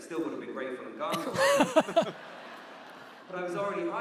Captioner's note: audience laughs